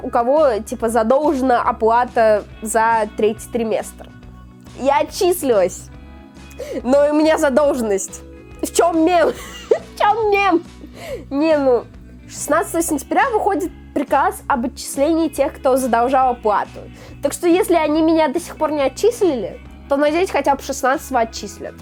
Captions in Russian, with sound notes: у кого типа задолжена оплата за третий семестр. Я отчислилась, но у меня задолженность. В чём мем? [смех] В чём мем? Не, ну... 16 сентября выходит приказ об отчислении тех, кто задолжал оплату, так что если они меня до сих пор не отчислили, то надеюсь, что хотя бы 16 отчислят.